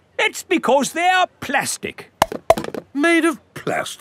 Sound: clunks

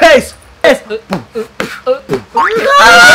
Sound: beatboxing

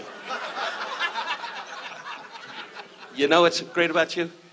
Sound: audience laughs

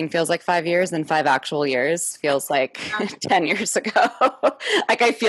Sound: laughs

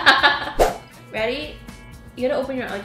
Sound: both laughing; slide swooshing

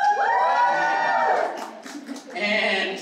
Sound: cheers

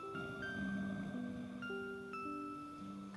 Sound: soft music; snoring; soft music

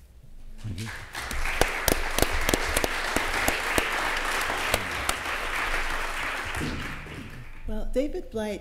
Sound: applause

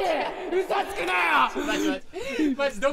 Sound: hyperventilates

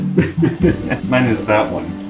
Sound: both laugh

